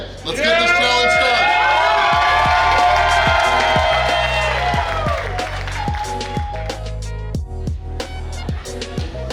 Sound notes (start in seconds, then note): 0.2 cheering; 4.8 upbeat music